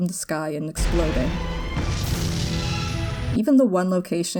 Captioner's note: bus exploding